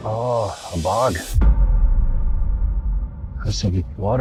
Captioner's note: boom sound effect